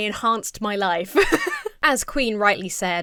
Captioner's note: laughs